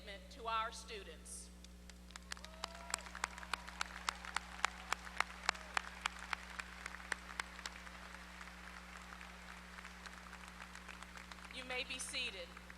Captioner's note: applause